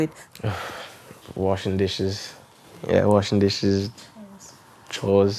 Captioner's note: he sighs